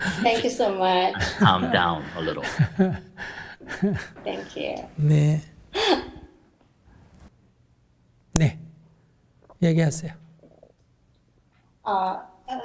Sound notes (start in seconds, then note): 2.4 questioner laughter; 3.4 Sunim laughter